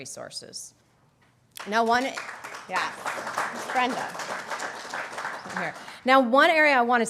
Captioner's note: applause